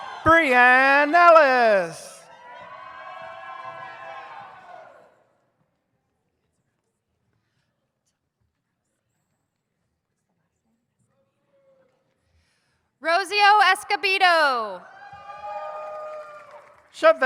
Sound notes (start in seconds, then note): 0.0 audience cheers; 2.7 audience cheers; 15.0 audience cheers